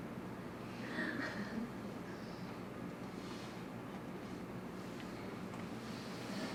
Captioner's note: audience joyfully chuckles